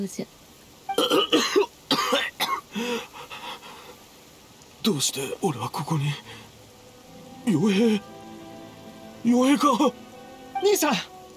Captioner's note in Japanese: 咳咳